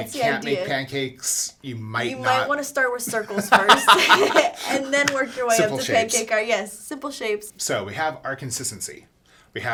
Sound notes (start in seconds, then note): 3.2 laughs